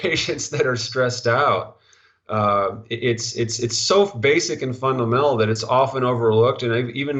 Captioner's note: stuttering